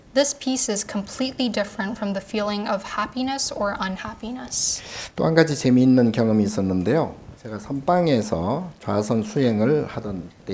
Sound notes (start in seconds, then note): 5.2 speaking Korean